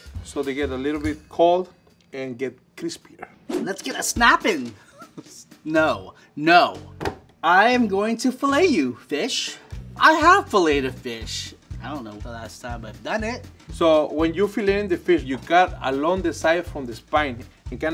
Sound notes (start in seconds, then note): 4.7 laughs